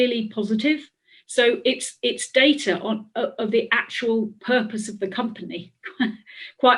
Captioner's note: laughs